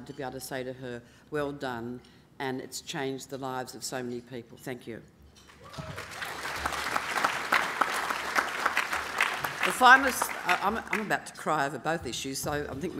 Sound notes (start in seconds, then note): 5.5 applause